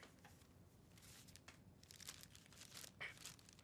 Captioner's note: paper rustling